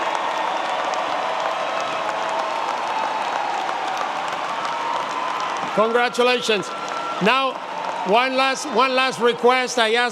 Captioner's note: cheering and applause